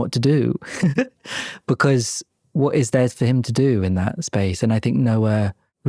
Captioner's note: laughs